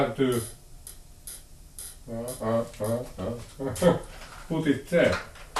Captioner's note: the lamp is creaking